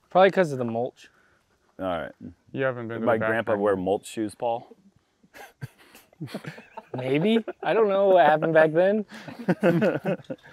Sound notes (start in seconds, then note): 5.3 laughs; 9.1 laughs